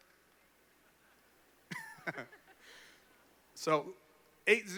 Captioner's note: laughter